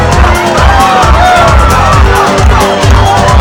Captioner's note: Crowd cheering for Spain & Portugal